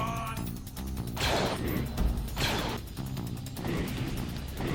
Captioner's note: slow electronic music; laser blasts